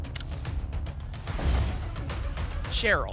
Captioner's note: thump; whoosh